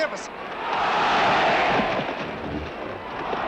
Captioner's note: crowd shouts "olé" and applause